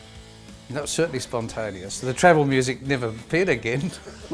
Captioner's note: laughing